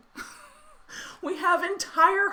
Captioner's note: laughing